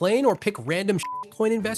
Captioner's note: beep